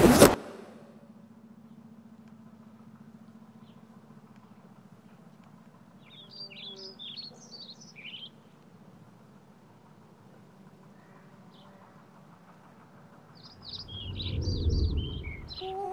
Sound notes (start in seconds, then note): 6.0 birds chirping; 13.5 A mysterious WHOOSH